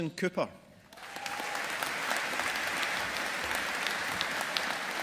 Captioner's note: audience applauding